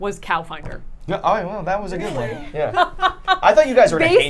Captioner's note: group laughing